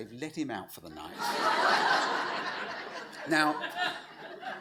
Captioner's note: audience laughs